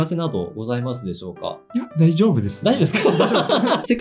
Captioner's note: laughs